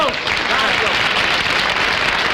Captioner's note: audience Applauding